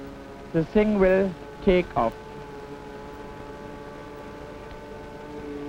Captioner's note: engine humming